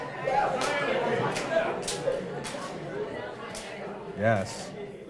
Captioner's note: audience high-fiving